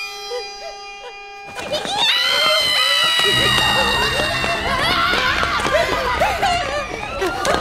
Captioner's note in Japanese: 悲鳴